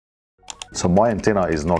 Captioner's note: mouse clicks